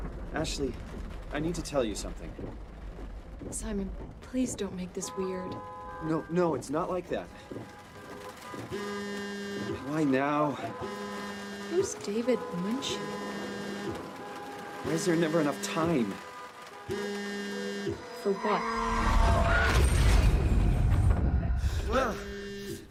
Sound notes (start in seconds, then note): 7.5 obnoxious honking and phone buzz